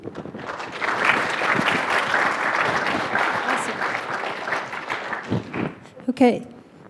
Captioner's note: applause